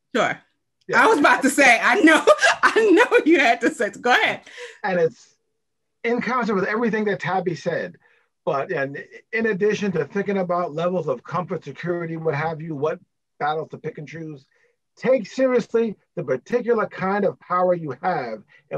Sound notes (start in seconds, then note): 2.0 laughs